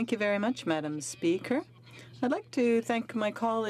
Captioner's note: speaking French